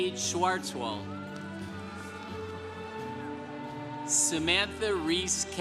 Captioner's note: congregation cheering